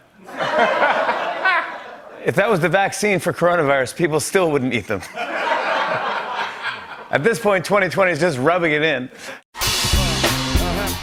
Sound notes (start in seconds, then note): 0.2 laughter; 5.0 laughter